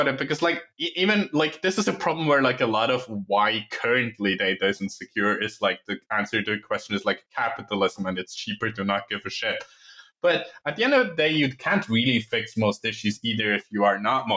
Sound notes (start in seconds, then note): none